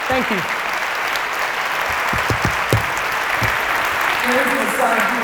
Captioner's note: applause